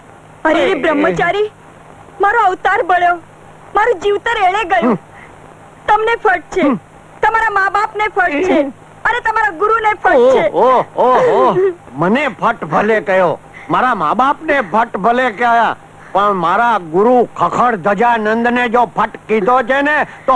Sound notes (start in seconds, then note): 10.1 crying